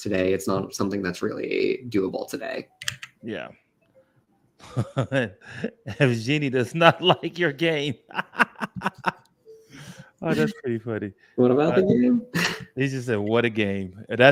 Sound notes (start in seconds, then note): 4.2 laughs